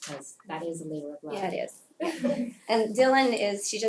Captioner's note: laugh